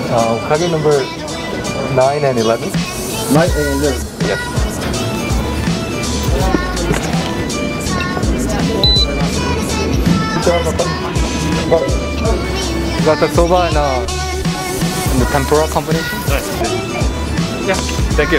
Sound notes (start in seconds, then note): 4.0 cashier mumbles; 8.8 beep